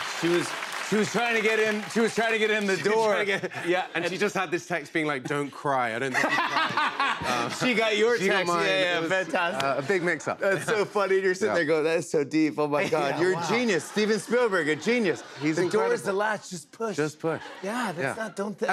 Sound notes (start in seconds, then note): 6.0 laughter